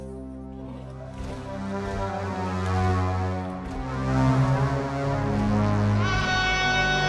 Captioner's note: distant robotic walking sounds